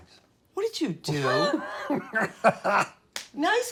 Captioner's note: laughing loudly